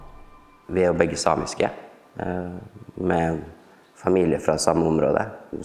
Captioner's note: speaking in Norwegian language